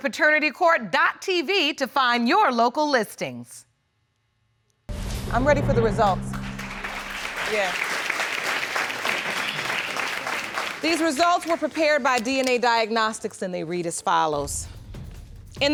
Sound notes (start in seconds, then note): 6.2 applauding